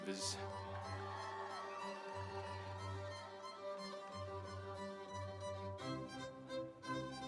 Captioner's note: audience cheering; instrumental music